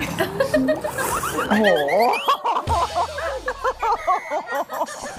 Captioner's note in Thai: เสียงหัวเราะ